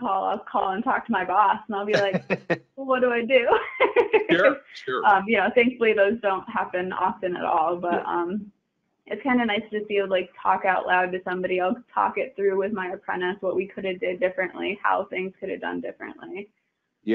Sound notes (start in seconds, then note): 1.9 laughing